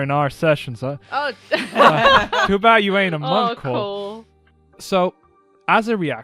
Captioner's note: laughter